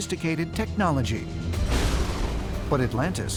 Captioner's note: thunder